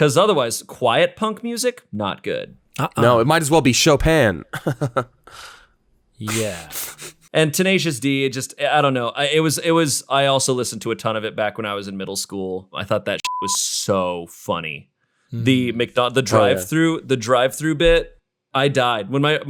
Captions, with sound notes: because otherwise quiet punk music, not good. - No, it might as well be Chopin.(laughs) - Yeah. - And Tenacious D, I don't know. I also listened to a ton of it back when I was in middle school. I thought that (beep) was so funny. The drive through bit. I died.